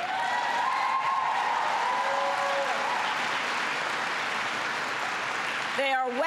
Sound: applause

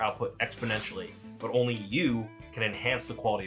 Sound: rocket zooms

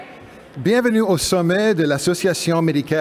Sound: speaking french

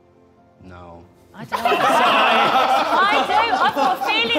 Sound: Sidemen laughing

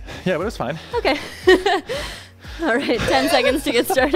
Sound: chuckles

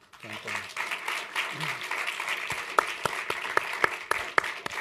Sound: applause

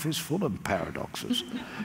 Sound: laughter

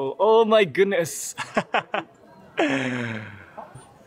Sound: laugh

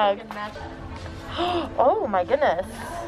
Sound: gasps

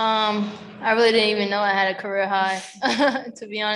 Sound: chuckles

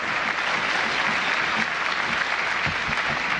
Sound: applause

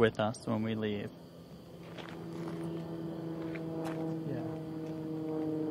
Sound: plane droning; muttering

